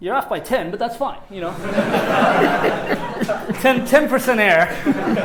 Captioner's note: laughter